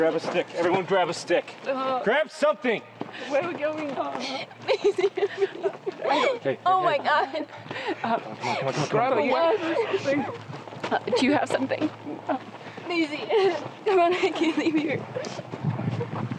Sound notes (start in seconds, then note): 5.1 sobbing; 8.1 all chattering; 9.2 whimpering; 14.4 whimpering